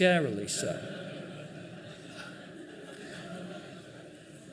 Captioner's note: laughing